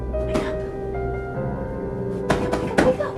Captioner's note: whispering